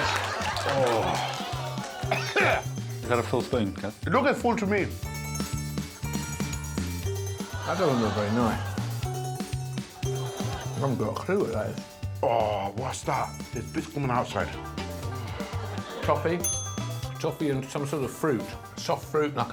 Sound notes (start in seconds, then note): 1.9 coughing; 16.4 dinging